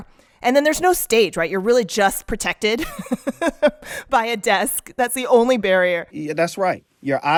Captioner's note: laughter